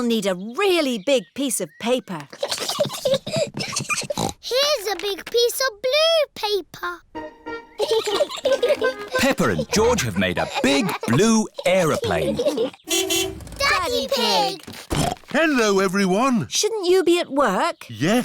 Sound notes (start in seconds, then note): 4.0 snorts; 7.8 both giggling; 12.8 horn honks; 14.8 snorts